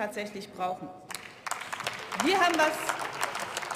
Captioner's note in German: Beifall